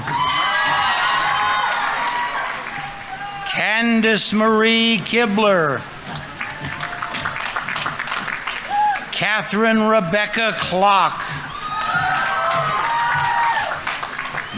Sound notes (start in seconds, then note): 0.2 audience applauding; 0.2 audience members cheering; 6.0 audience applauding; 11.6 audience applauding; 11.6 audience members cheering